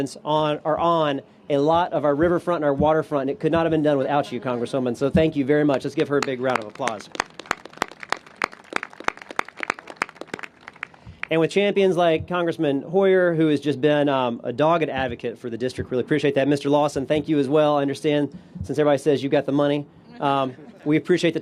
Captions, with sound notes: ARE ON A LOT OF OUR RIVERFRONT AND WATERFRONT. IT COULDN'T BE DONE WITHOUT YOU, CONGRESSWOMAN. SO LET'S GIVE HER A BIG ROUND OF APPLAUSE. [APPLAUSE] AND WITH CHAMPIONS LIKE CONGRESSMAN HOYER WHO HAS BEEN A DOGGED ADVOCATE FOR THE DISTRICT, APPRECIATE THAT, MR. LAWSON, AS WELL. SINCE EVERYBODY SAYS YOU HAVE THE MONEY, WE APPRECIATE THE